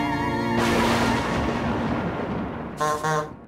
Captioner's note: dark revelation music; thunder; honk honk